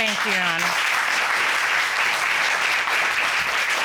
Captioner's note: applause